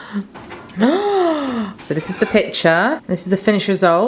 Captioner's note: gasps